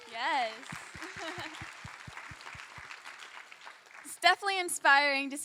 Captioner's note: crowd clapping